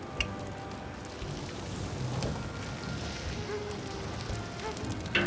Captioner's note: flames roaring